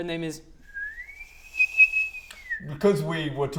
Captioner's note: kettle whistling